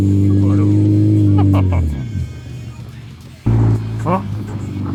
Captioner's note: speaking foreign language; engine revving